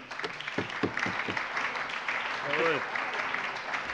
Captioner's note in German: Allgemeiner Beifall - Unterbrechung von 12:04 bis 13:32 Uhr